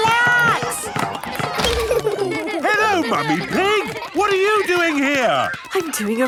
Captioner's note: laughter